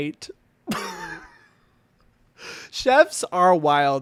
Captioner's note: laughing